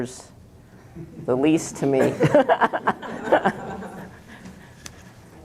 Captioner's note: laughter